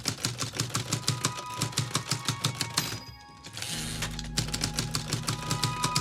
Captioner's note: typewriter keys clacking; light orchestral music